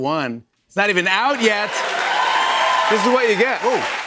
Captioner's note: cheers and applause